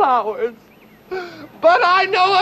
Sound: dramatic gasp

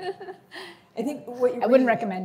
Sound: chuckles

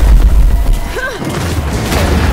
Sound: wind blowing

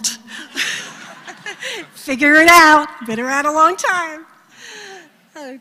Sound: laugh

